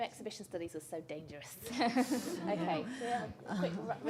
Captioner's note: laughter